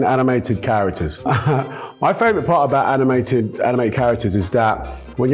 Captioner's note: chuckles